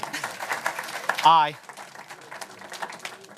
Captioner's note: applause